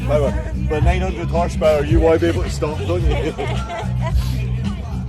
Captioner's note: laugh